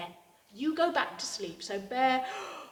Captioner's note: yawns